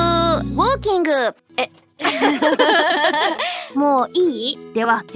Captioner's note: laughs